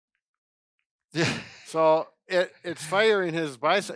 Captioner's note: laughs